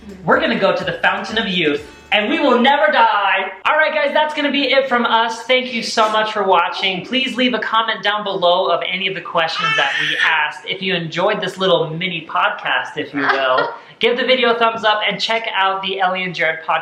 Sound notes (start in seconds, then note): 9.5 baby screeching